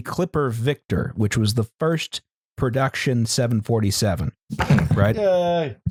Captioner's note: something falling over